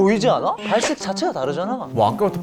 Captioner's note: confident